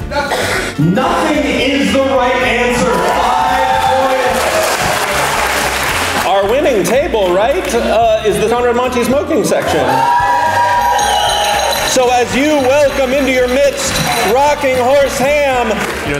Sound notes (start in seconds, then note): 3.0 crowd cheers